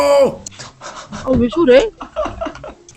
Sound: laughter

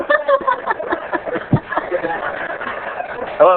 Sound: laughter

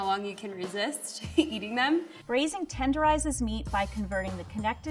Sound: laughing

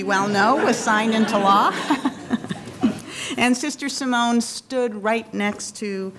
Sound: laughing

